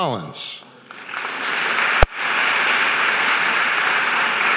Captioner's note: audience applauding